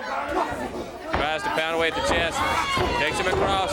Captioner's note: crowd chatter